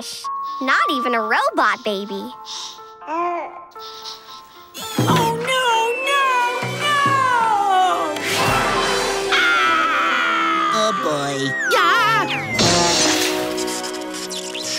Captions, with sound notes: Not even a robot baby. [cooing] Oh no, no, no! [screaming] Oh boy. Gah!